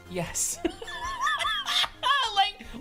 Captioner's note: laughing